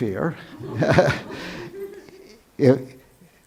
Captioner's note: laughs